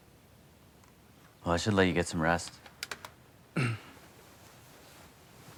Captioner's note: clears throat